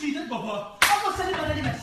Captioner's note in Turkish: şaplak